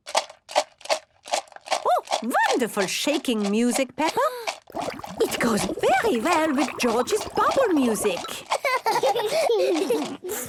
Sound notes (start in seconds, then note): 0.0 objects shaking; 4.4 shaker shaking, water bubbling; 8.5 both laughing